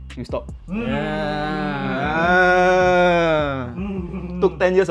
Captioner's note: happy understood noises